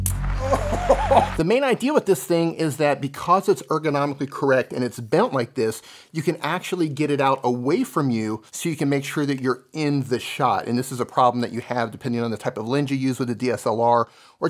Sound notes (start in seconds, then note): 0.4 laughs